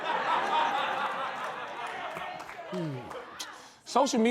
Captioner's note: laughter